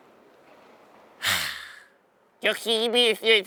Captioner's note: sigh1